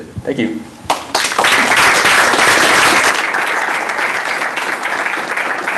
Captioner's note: applause